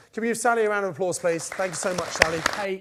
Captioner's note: crowd claps